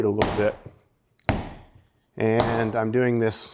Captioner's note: dough pounding